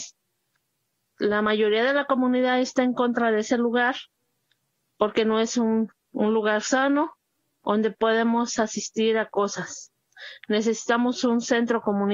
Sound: speaking in foreign language

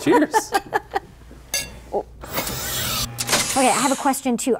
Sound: laughing; laughing

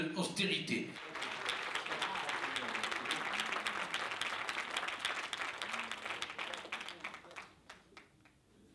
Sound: claps

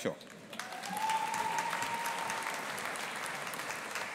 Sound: audience applauding

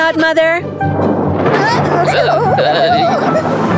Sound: thunder rumbling

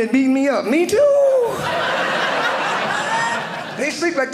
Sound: audience laughing

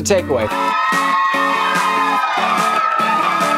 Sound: crowd cheering

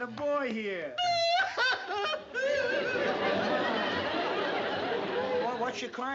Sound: aunt sophie crying

